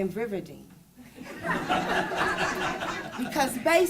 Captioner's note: laughing